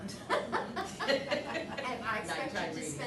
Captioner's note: laughing